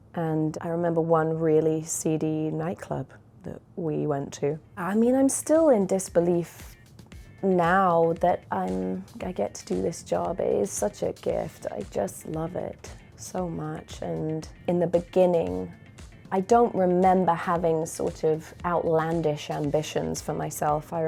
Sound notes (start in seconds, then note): none